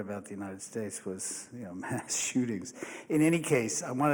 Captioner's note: chuckles